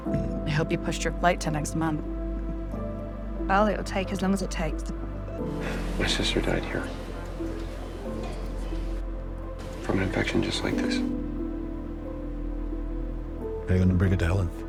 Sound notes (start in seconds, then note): 5.4 Max exhales